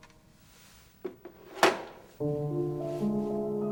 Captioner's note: cassette drops